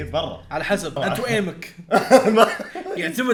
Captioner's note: laughs